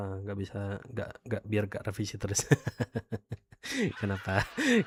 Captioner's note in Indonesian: tertawa